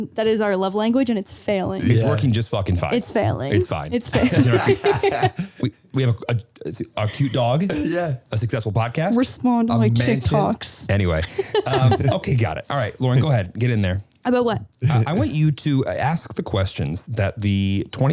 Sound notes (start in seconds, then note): 4.1 all laughing; 11.2 laughing